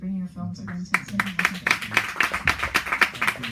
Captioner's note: applause